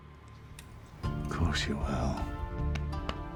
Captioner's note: scottish accent